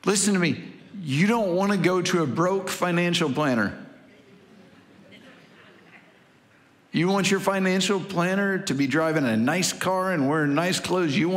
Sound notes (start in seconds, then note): 4.1 congregation laughing